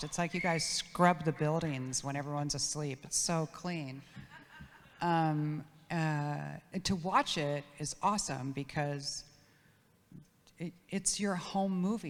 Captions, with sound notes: It's like you guys scrub the buildings when everyone's asleep, it's so clean. (audience laughs) To watch it is awesome because it's your home movies,